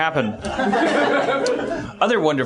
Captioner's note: laughs